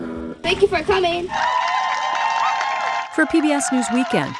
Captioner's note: cheering